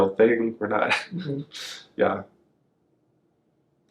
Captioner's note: laughs